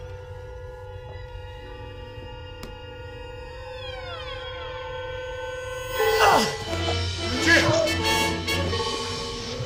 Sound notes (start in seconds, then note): 5.8 groans